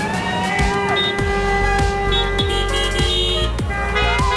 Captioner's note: crowd cheers